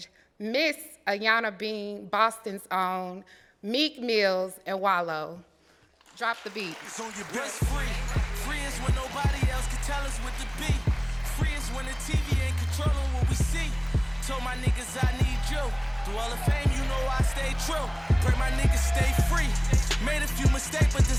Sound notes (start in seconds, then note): 10.4 applause; 15.9 applause and cheering